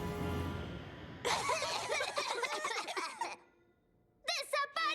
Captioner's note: coughing